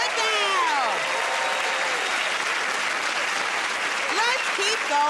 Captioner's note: cheers and applause